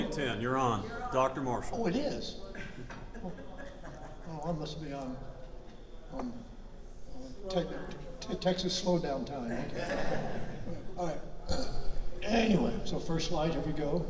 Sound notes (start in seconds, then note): 9.6 audience laughter